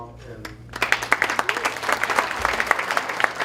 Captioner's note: applause